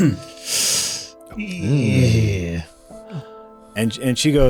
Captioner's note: noises of disappointment